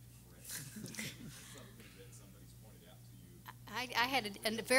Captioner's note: everyone laughing